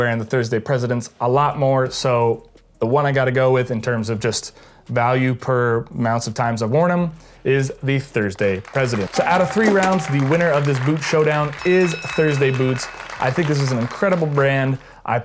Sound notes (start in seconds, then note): 8.6 people clapping; 12.4 boxing bell ringing